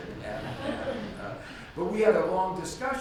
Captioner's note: audience laughs